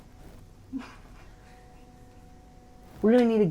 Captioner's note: man chuckling